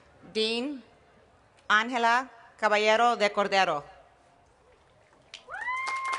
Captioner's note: applause